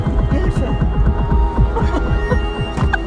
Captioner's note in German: Lachen